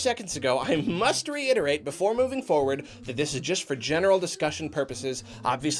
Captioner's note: chuckles